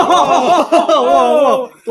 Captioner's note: laughs